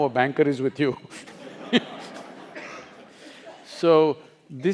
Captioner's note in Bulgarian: Смее се